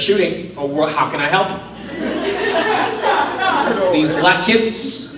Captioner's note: laughter